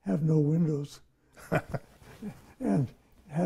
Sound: laughs

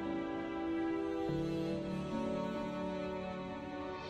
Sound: mouthing

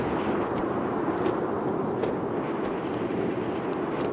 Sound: wind whooshing

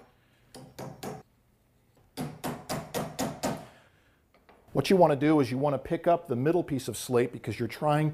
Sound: hammering

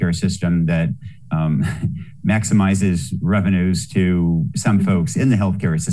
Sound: laughs

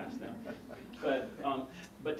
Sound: laugh

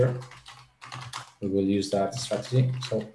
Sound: keyboard clattering

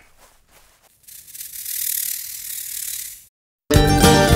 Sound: snake hissing; upbeat country music

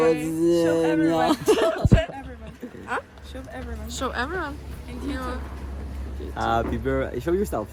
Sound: laughter

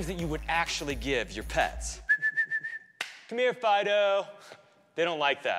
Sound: whistling

